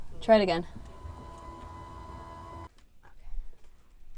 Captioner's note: whirring